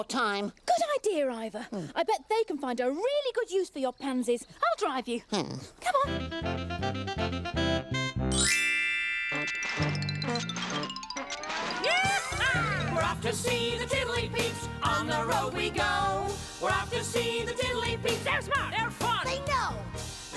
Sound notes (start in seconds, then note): 9.2 hoobmobile starting; 11.7 whooping